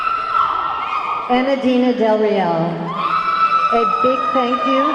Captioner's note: audience clamoring; audience clamoring